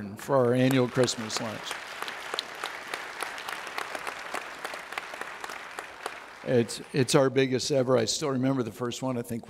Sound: audience Applauds

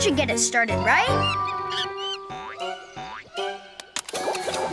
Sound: monkey screeches; playful music

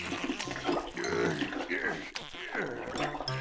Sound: grunting

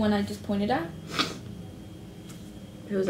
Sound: sniffles

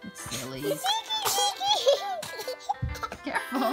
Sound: giggling

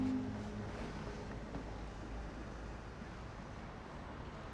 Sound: traffic bustling

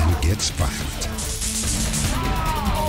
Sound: buzzing

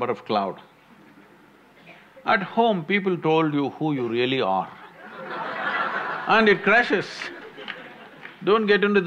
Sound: laughter

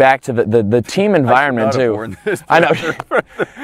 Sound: laughs

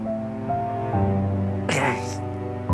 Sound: groans

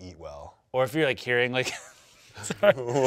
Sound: laughs

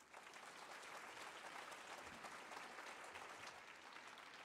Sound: audience applauding

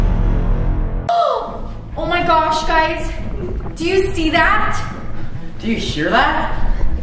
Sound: gasp

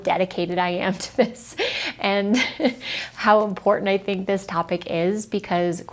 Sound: laughs

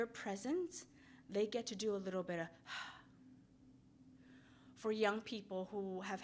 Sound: exhales

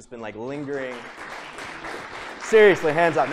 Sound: applause

